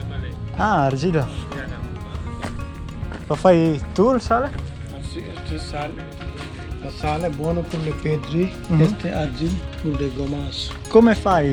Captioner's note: speaking Italian